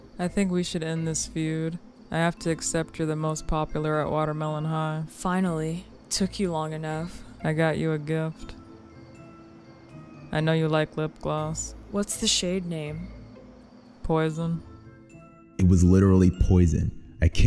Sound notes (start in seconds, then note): none